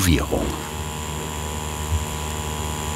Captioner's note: whirring sound